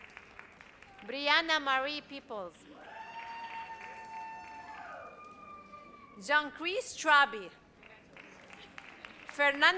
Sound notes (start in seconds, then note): 2.8 audience cheers